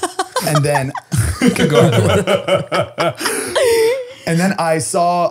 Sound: all laughing

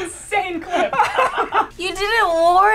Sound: both laugh

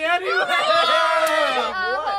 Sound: all clamoring

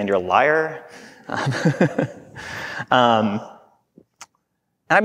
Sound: chuckling

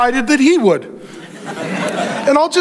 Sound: congregation laughing

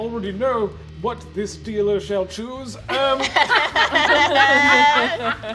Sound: all laughing

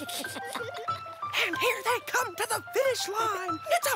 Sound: muffled giggling; in hushed voice

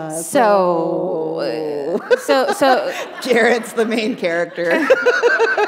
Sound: chuckle; laughter

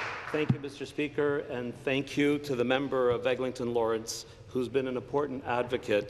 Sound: applause

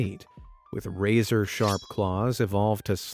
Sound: metal tinging

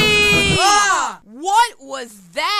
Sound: ahhh!

